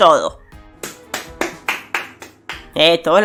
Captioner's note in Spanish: Aplausos